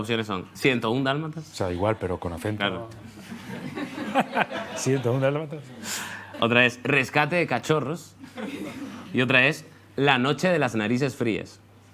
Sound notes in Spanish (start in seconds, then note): 3.9 con acento latinoamericano